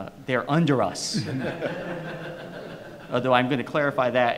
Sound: audience laughs

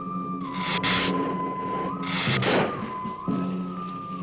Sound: Gila monster hissing

